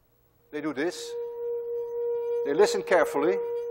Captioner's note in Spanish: Reproduce tono alto